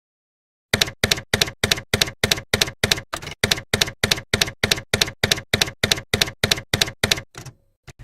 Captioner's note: typewriter keys clacking